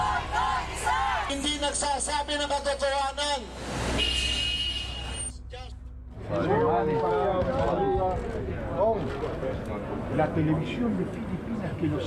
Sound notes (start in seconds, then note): 0.2 protestors speaking in foreign language; 6.2 crowd chattering